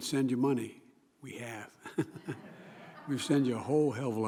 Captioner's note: laughter